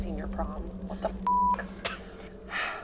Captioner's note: beep